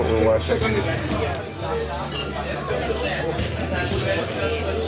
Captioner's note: chatter